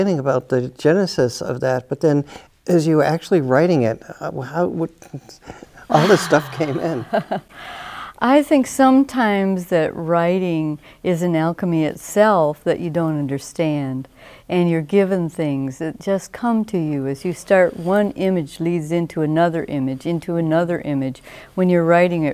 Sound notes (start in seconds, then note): 5.8 laughs